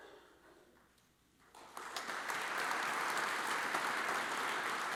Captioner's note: audience applauds